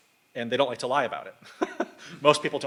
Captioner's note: laughs